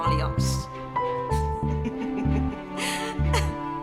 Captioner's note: laughing